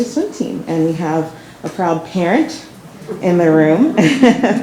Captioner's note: chuckles